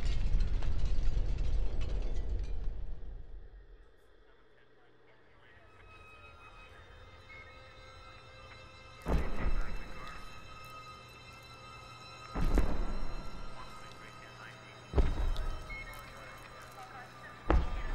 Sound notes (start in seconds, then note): 6.2 ominous music; 6.2 police radios chattering